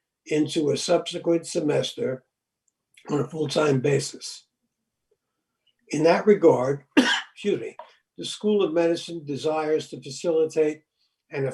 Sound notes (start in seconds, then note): 6.9 coughing